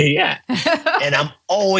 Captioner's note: laugh